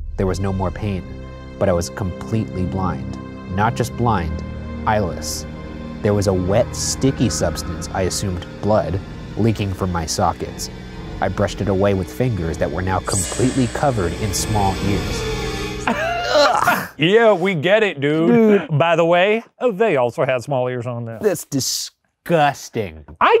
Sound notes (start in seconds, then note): 15.8 laughing; 15.8 retching